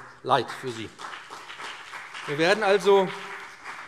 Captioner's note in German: Beifall BÜNDNIS 90/DIE GRÜNEN